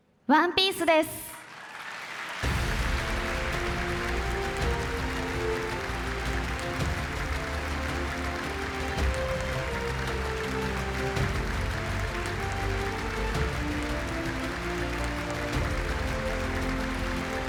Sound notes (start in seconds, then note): 2.4 applause